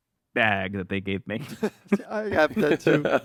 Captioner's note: laughs